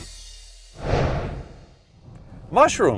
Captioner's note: swooshing